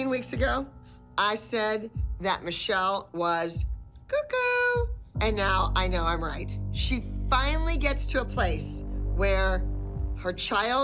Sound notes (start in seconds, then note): none